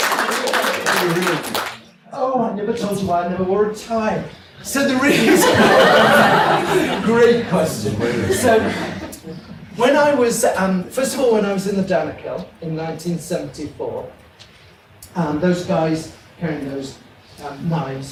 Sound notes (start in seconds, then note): 5.0 audience laughs